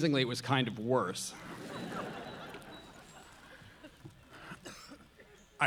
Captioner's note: audience laughing